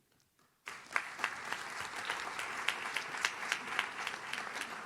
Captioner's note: audience claps